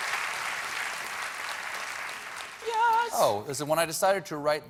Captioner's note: applause